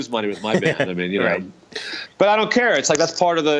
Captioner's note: laughs